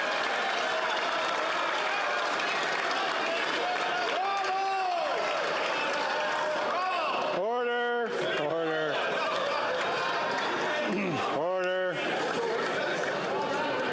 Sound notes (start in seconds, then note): 6.6 yelling